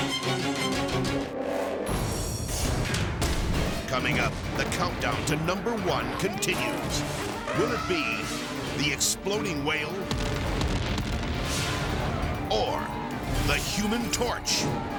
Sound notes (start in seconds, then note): 0.1 dramatic music continues; 10.0 dynamite exploding